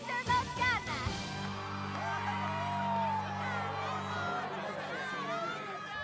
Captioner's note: cheers